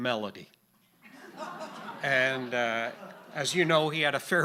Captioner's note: audience laughing